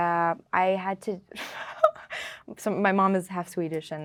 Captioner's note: laughing